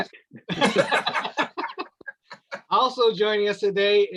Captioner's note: laughs